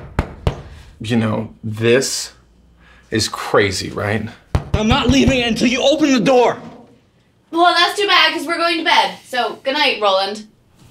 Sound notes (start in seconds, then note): 4.4 still pounding at the door